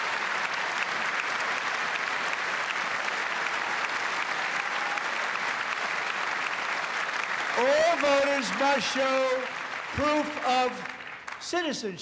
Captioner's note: cheers and applause